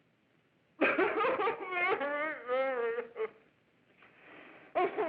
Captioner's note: sobbing